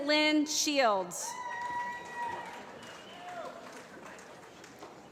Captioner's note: applause